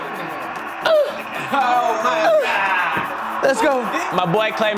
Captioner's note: laughing